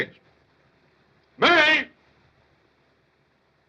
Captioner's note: shouting